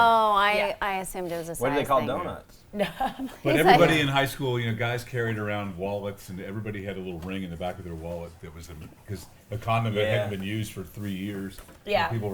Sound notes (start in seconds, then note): 2.8 laughs